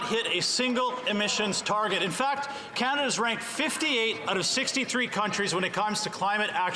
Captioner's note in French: voix de l'interprète